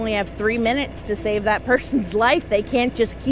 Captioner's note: laughs